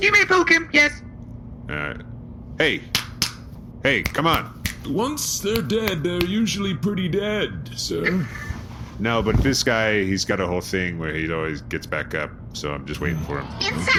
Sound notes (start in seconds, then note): 4.0 snapping